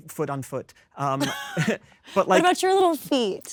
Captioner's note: Kristen chuckles; Jesse chuckles